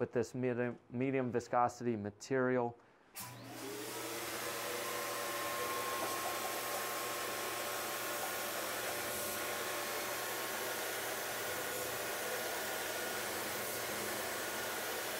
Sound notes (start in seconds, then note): 3.2 paint spraying